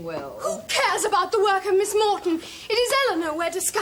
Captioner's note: shouts